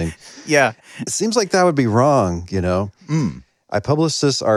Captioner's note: laughs